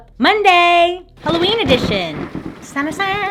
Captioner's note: thunder crack and rainfall